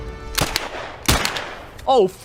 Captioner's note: gunshots